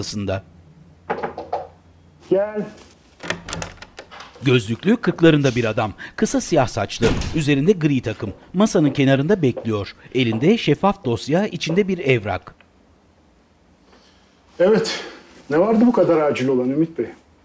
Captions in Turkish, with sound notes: (Kapı tıklama sesi) Gel. Evet. Ne vardı bu kadar acil olan Ümit Bey?